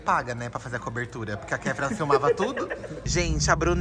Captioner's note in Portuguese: Blogueirinha ri